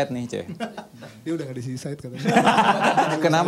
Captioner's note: laughs